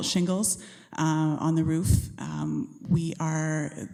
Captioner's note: none